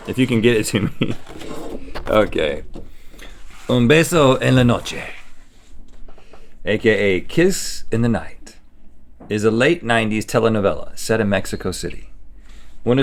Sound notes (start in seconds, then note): 3.7 foreign language